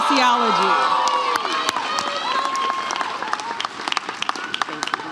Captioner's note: audience cheers